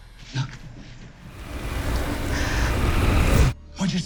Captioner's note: fire roars